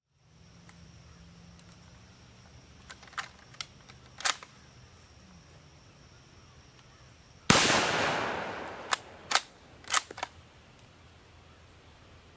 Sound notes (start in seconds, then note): 4.0 bolt sliding; 7.5 rifle firing